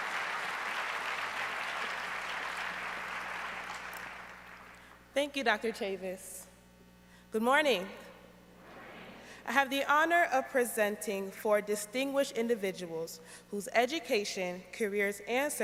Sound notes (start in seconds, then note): 4.0 applause